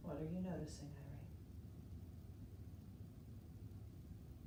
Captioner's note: none